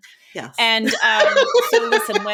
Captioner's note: laughing